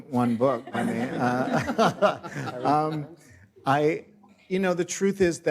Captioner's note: everyone laughs